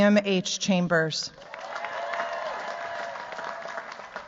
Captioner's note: cheers, applause